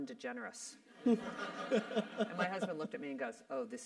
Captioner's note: laugh